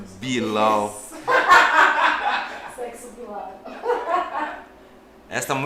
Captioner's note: laughter